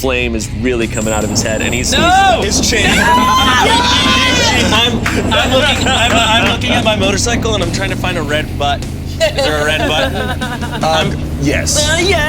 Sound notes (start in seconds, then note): 3.1 all hollering